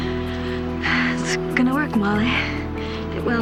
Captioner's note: exhales